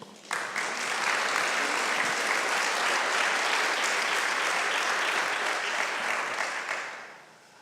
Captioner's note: applause